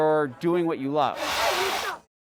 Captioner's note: drilling